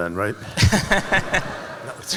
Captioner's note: laughter